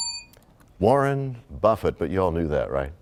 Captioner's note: bell rings, time expires